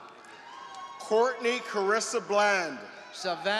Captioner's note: applause